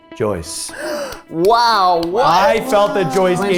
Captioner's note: gasps